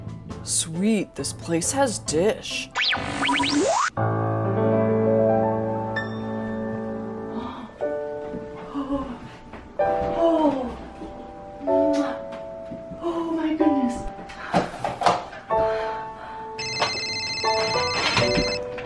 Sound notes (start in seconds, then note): 2.8 tv channel static; 3.2 joyful piano music playing; 15.0 phone ringing